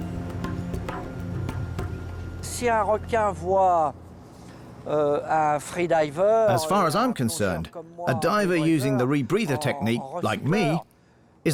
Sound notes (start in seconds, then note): 2.3 speaking French